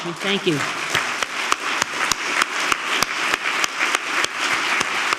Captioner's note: applause continues; audience applauds